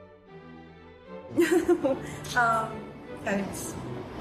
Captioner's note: Meghan laughs